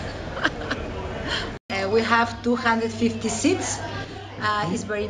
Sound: laughs

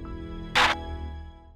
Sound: walkie talkie static

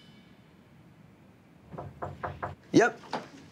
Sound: knocking

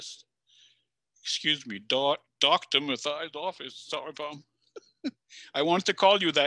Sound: chuckles

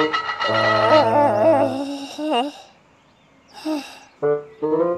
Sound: crash; grover groans

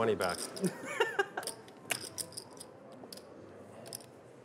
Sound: laughing

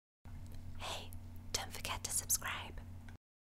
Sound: creepy whisper

